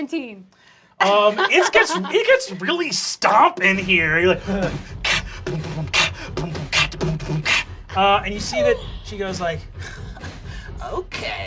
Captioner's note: imitates drums